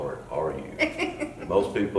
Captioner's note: laughing